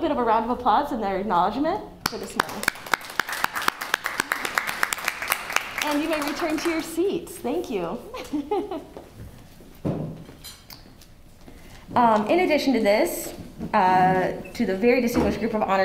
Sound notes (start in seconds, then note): 2.0 applause; 8.1 laughter